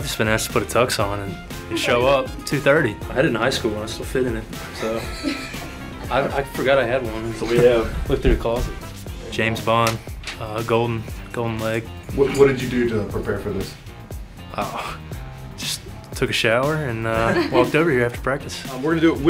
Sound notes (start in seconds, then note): 4.7 laughter